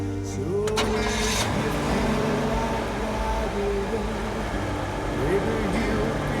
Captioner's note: engine rumbling